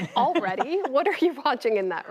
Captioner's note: laughter